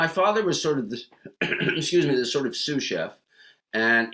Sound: coughs

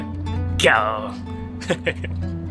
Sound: lion roar in Japanese

